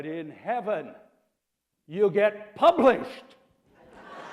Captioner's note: laughter